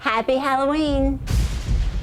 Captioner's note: thunder clap